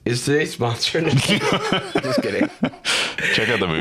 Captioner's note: laughing